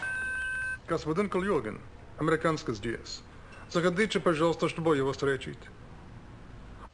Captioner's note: speaks Russian